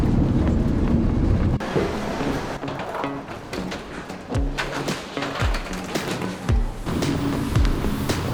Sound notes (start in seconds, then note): 0.0 airplane landing; 3.5 luggage being wheeled